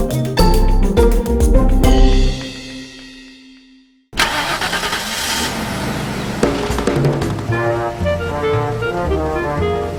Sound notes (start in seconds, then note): 4.1 car engine starting; 7.5 brass music